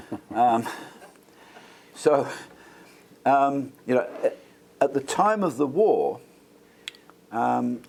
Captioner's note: laugh